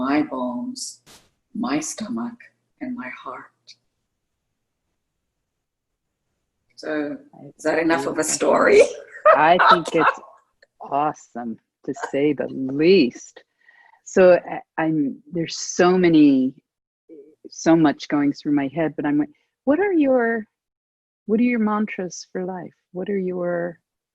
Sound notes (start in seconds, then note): 8.8 laughter